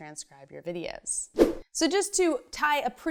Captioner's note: fast whoosh